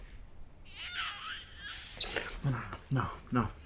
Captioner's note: baby crying